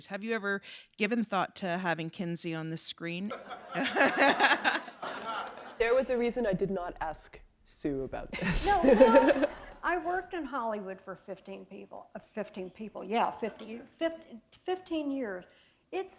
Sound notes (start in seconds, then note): 3.3 laughter; 8.4 chuckle